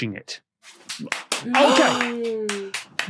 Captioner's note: applauds